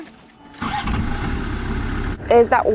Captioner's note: car engine revving